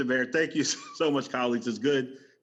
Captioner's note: laughter